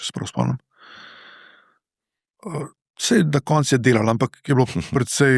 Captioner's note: sigh